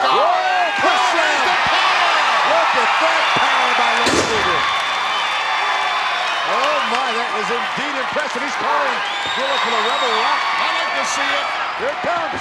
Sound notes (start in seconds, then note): 4.0 body thuds; 4.4 audience cheers